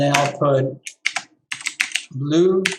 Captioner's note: keyboard clicking